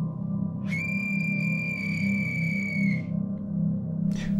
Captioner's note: blows the death whistle